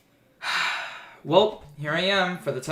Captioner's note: sighs